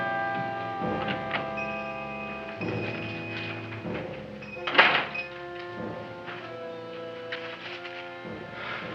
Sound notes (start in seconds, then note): 1.3 shop bell dings; 4.6 door closes